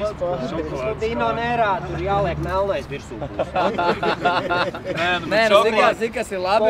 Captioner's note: laughing